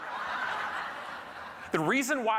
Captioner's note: audience laughing